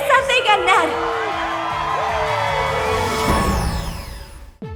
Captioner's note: crowd cheers; triumphant music; exciting music